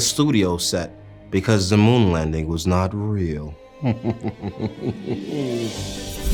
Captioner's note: chuckles